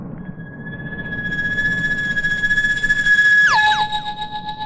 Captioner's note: high pitched whine